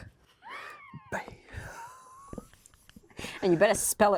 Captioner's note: both laughing